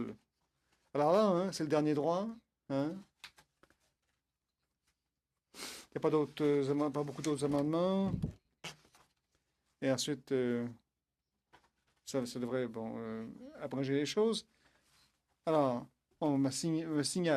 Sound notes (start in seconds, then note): 5.3 speaking French